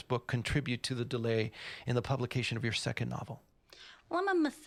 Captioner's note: none